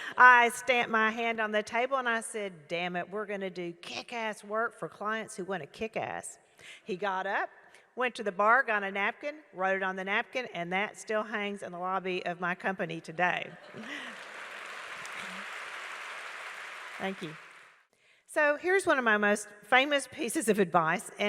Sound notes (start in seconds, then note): 13.6 audience clapping